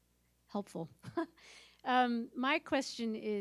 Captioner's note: laughs